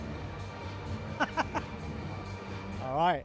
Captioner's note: laughs